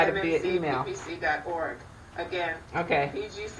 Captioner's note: audio feedback